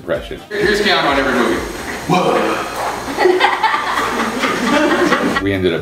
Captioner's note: laughter